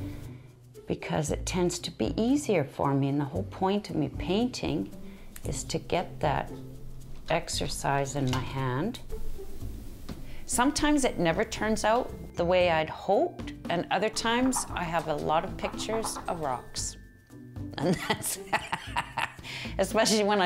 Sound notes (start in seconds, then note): 17.8 laughing